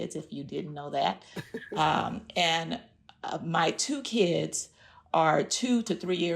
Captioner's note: laughter